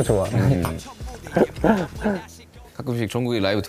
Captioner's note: haha